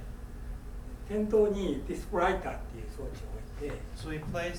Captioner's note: speaking in foreign language